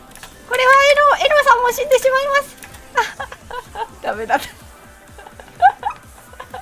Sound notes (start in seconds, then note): 4.9 Laughing